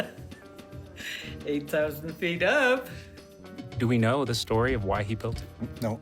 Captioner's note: laughs